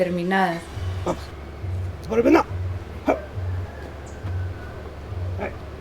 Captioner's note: puppet voices